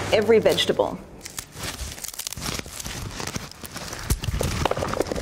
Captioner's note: basket weave rustling; vegetables rumbling on wooden counter